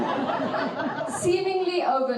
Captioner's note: audience laughing